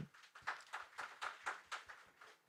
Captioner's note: applause